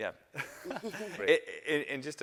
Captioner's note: panelists laughing